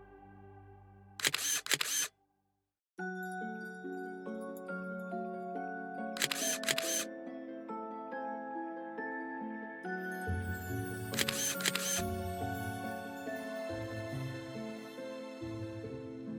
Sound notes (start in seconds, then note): 1.2 shutter clicking; 3.0 eerie music; 11.1 shutter clicking